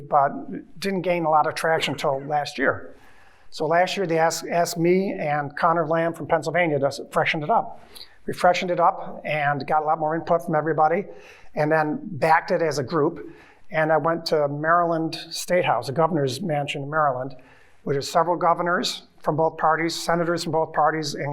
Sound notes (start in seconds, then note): none